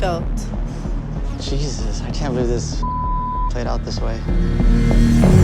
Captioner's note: beep